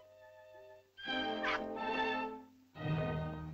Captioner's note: melancholy music; suspenseful music; Loana yelps; suspenseful music